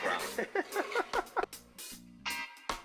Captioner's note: laughing; funky music